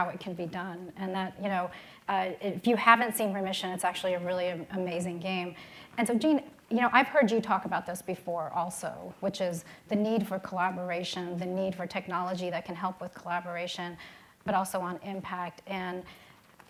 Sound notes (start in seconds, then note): none